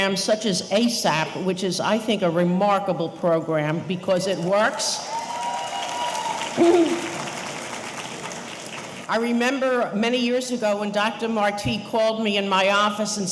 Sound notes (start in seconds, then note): 5.0 audience cheering; 5.0 audience applauding